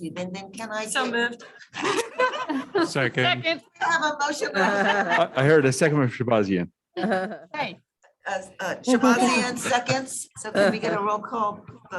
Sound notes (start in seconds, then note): 1.7 laughter